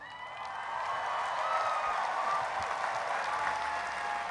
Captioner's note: cheering and applause